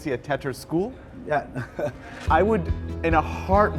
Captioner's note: laughs